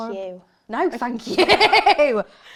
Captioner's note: laughs